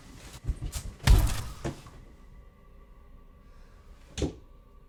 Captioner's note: bodies thudding